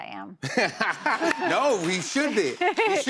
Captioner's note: laughter